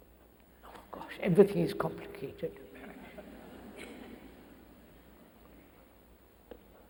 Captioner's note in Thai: เสียงหัวเราะ